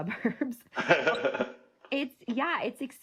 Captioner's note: laughing